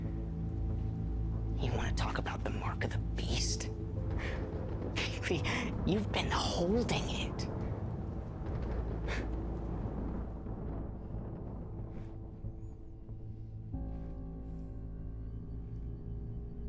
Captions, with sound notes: You wanna talk about the mark of the beast? Kaylee, you've been holding it. (thunder rumbling) Huh. (Rebecca breathing uneasily) (soft dramatic music)